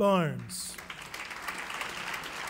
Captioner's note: clapping